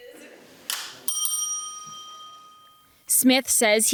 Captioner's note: bell rings